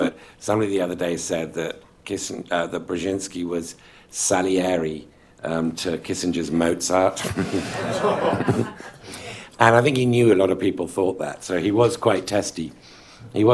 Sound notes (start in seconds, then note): 7.2 laughter